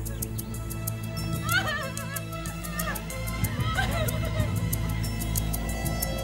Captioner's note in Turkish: Kadın çığlıkları